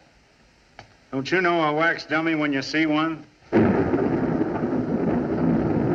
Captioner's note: thunderclap